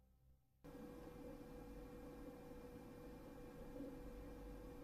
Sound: computer noises from inside

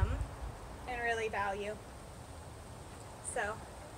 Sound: wind

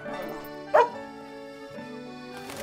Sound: barks

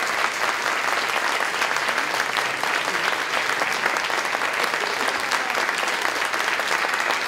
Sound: applause, cheering

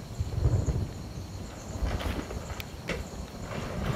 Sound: thunder

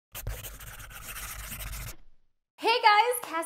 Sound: scratching sound

